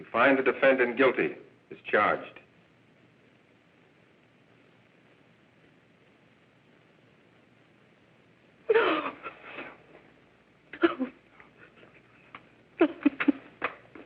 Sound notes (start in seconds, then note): 10.7 sobbing